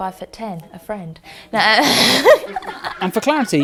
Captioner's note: laughs